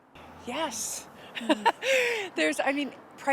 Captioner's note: chuckling